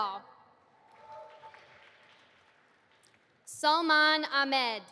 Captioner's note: audience applauding